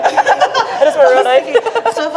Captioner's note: both laugh